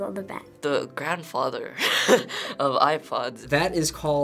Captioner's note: laughs